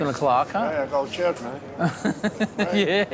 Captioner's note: laughs